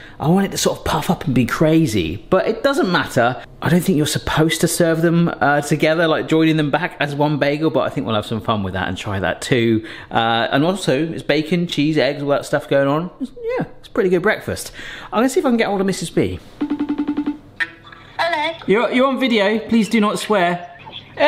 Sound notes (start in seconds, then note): 16.6 phone ringing